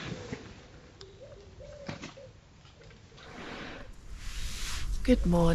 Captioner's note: none